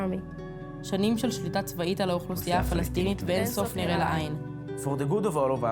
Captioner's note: speaking foreign language